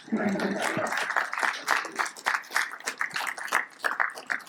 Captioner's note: audience applauds